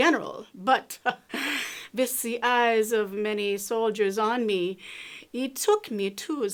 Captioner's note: laughs